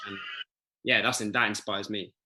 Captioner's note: child crying